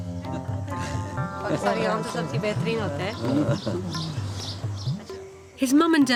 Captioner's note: speaking in foreign language